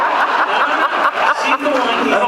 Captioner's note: laughs